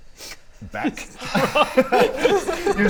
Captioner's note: confused giggles